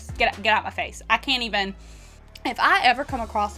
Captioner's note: inhales sharply